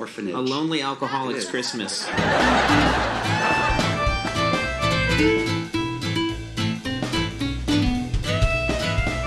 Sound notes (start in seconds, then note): 1.0 audience laughs; 3.0 upbeat music